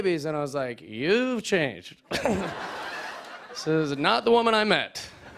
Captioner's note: laughter